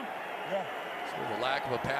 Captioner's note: pa announcement